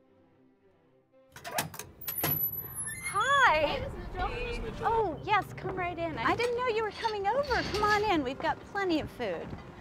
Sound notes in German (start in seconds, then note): 1.3 Tür sich öffnet